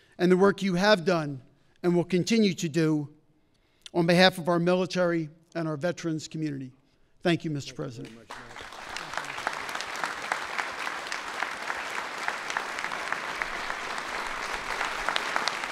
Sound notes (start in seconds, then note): 7.9 applause